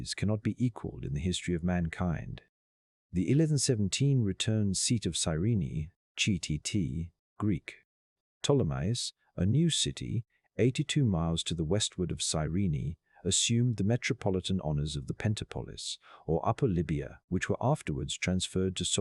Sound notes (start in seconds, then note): 7.2 Greek